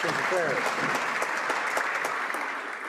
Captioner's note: some Applause